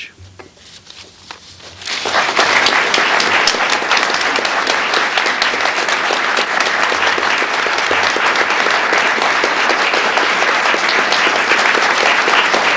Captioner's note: applause